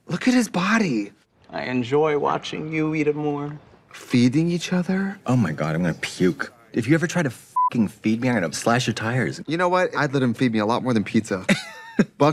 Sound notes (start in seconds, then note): 7.5 beep